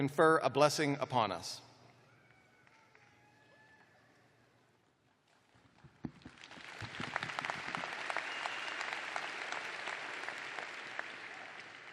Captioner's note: applause